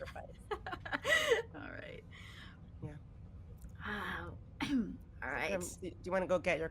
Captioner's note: laughing